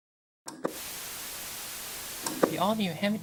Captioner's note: TV turning on